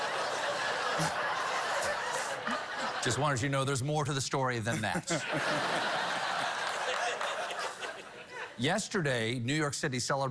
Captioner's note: cheers and applause